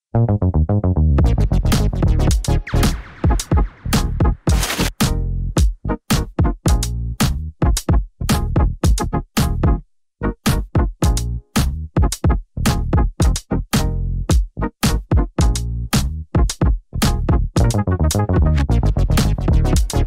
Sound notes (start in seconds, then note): 1.0 electronic music plays; 4.3 glitch sound effect; 5.1 electronic music plays